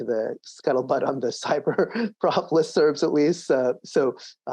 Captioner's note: laughs